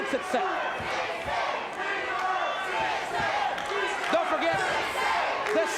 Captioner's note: audience chanting